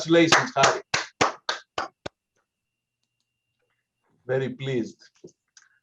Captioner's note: applause